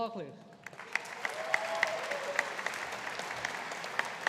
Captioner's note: audience applauding